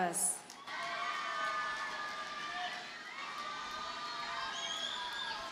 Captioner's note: audience cheers and applauds